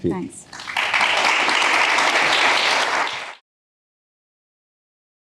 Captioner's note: audience applause